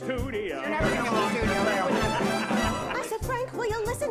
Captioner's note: singing; lively chatter, laughter